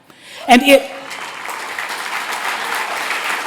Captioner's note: applause